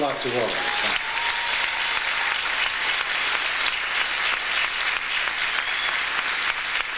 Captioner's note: audience applauds